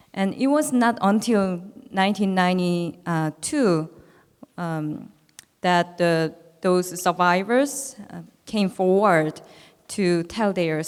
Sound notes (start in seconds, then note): none